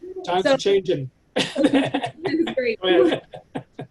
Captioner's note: laughs